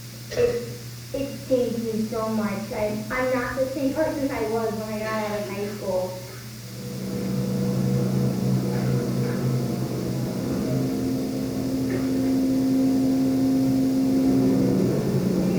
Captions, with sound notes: Its taking me so much I'm not the same person I was when I got out of high school. (train engine roars)